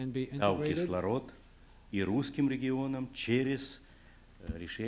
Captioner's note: non-english speech